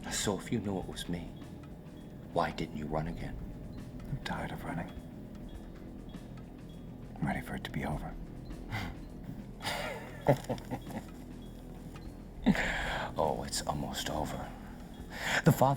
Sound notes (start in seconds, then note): 9.4 Brooks chuckling